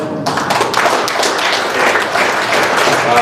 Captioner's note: applause